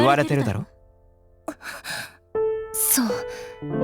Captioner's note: gasp